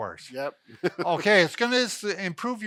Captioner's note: laughing